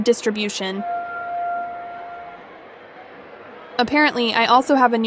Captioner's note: phone beeps